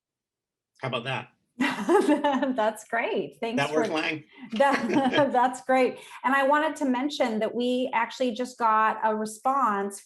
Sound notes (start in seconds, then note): 1.6 chuckling; 4.5 both chuckling